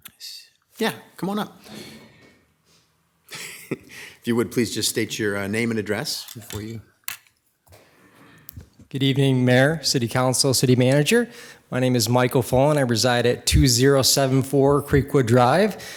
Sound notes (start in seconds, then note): 3.3 chuckles; 3.3 attendee coughing